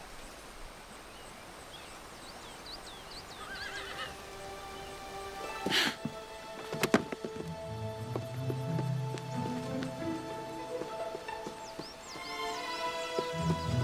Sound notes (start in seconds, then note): 3.4 horse Whinnies